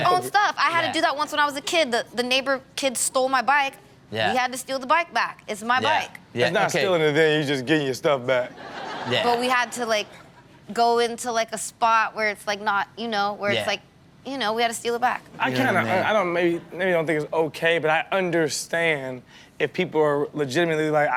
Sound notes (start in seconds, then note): 8.5 audience laughs